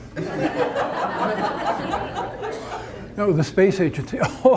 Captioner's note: audience laughter